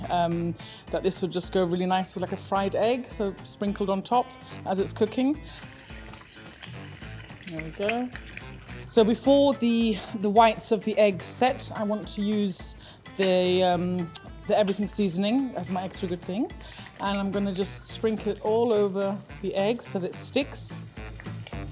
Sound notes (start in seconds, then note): 4.0 eggs sizzling